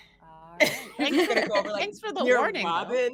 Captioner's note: all laughing